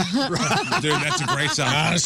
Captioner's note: laughing